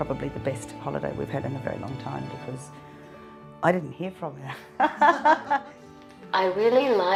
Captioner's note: laughs